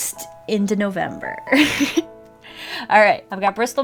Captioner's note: laughs